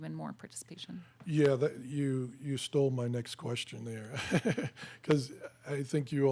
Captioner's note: laughs